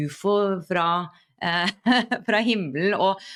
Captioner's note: laughter